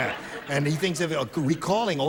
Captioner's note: laughter